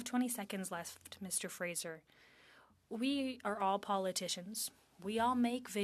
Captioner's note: speaking French